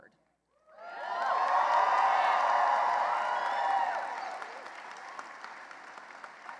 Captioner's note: cheering and applause